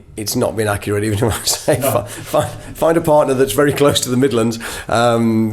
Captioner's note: chuckles